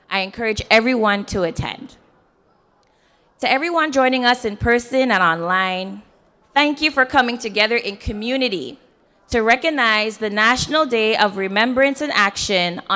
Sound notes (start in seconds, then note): none